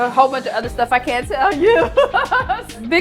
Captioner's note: laughs